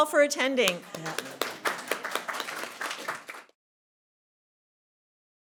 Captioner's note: audience clapping